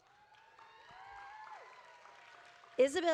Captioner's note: audience applauding